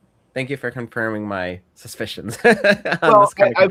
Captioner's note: laughs